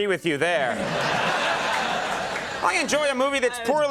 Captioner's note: audience laughing